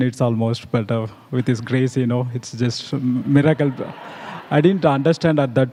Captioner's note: laughter